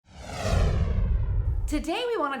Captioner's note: swooshing